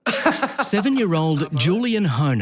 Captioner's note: laughing